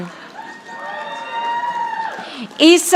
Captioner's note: audience applauding